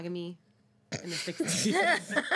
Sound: girls laugh

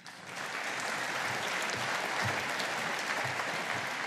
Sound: audience applauding

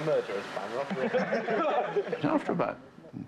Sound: all laughing

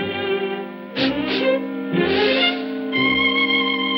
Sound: sniffing

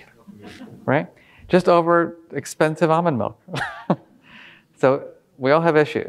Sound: laughing

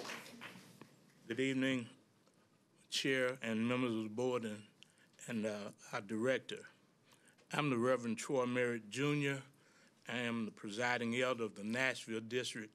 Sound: applause

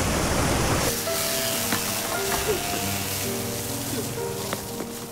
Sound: blood gushing; electric knife buzzing

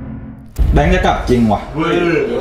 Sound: pat

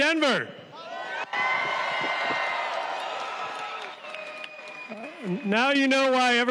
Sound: cheers and applause

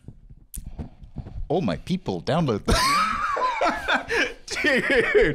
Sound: laughing

